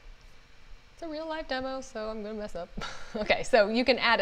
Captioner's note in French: rires